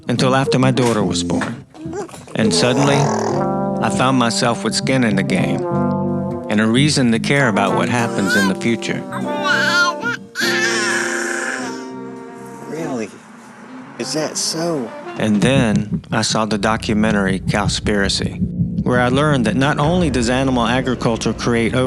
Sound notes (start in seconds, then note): 9.0 baby cooing